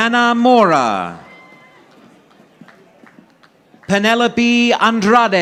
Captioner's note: audience applauding